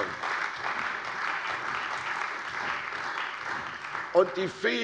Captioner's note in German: Beifall bei der CDU und dem BÜNDNIS 90/DIE GRÜNEN